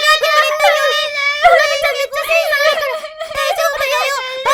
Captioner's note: loud crying